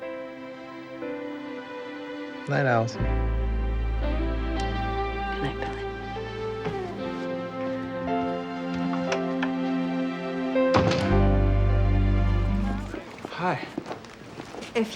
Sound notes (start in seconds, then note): 0.1 gentle music; 10.7 door thumps